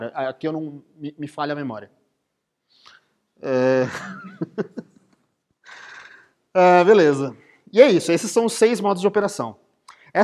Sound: laughs

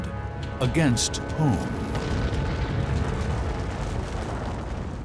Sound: explosion

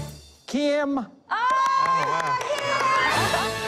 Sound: cheering; triumphant fanfare

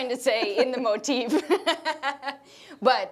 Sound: laughing

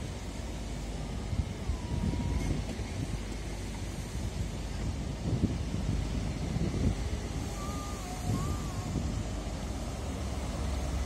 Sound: train noise

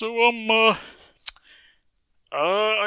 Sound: tsk

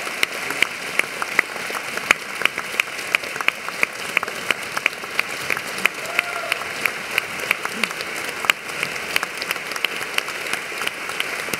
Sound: applause

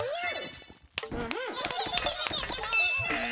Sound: cheering; beeping

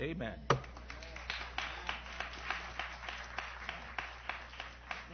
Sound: applause

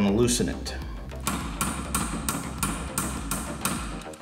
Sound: metal hammering

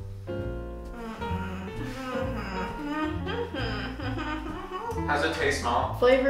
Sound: humming uncertainly

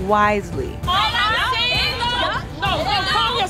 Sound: all shouting

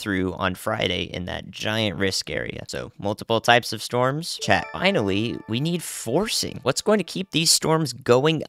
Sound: ding

